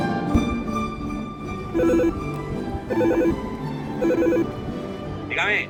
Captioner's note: bell sound